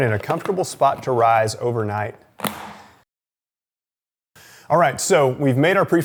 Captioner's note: lid clicking